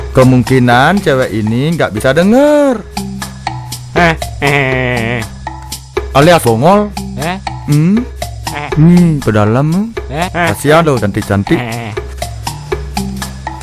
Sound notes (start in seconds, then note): 3.9 laugh